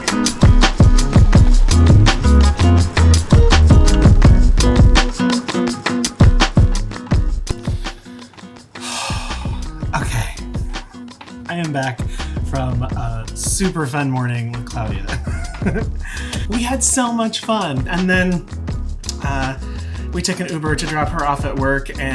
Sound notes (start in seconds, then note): 8.8 sighs; 15.0 laughs